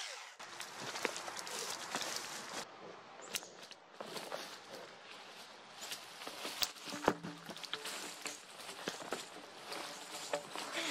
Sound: chainsaw running; leaves and branches crackling, log falling on the ground, birds chirping

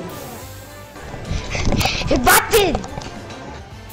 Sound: breaths

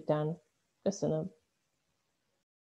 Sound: in Okinawan

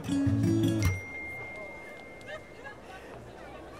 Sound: whatsapp notification pings

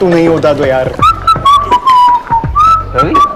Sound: Ravi whistling

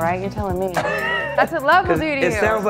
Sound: Nate laughs

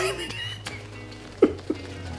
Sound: sobs

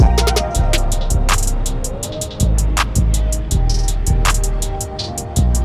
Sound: crowd cheerfully wooing

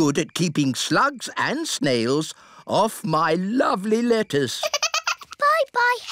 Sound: giggles

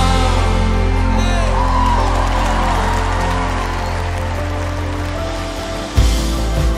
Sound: applause

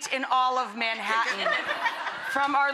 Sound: audience laughing

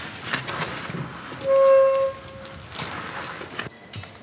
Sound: squeaking noise

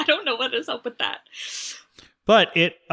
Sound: all laugh

